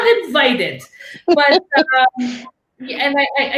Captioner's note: laughing